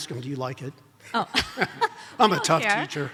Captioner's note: laughs